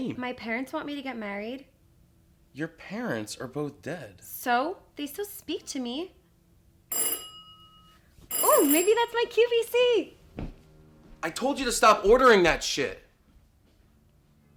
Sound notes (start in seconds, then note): 8.3 doorbell rings